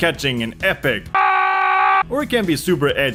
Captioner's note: Jorn the Bird screaming as it's aiming straight at Andri's house